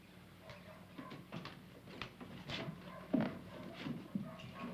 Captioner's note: footsteps approaching